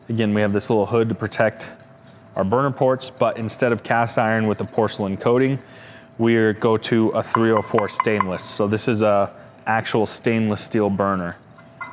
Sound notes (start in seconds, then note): 7.3 tapping burner; 11.5 taps on burner